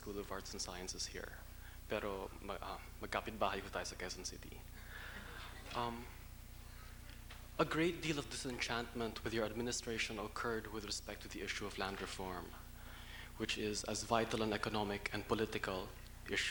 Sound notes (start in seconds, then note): 1.6 speaking tagalog